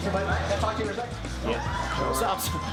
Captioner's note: upbeat music; cheering